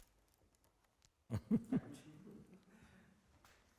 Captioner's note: giggles